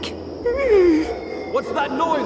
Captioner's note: moans